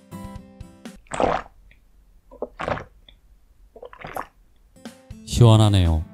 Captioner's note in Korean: 아이스커피 마시는 소리